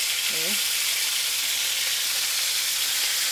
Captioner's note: sizzling